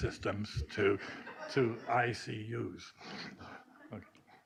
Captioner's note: laughing